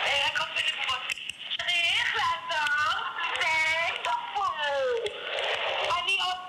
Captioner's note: speaking in hebrew